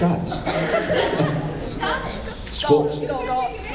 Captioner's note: laughs